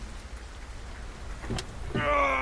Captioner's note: a car door opens